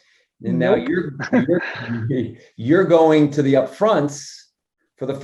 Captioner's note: laugh